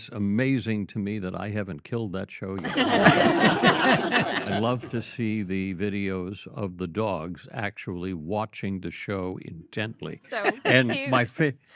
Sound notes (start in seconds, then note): 2.6 all laugh